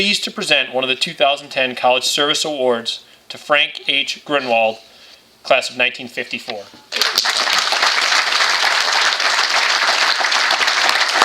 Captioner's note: applause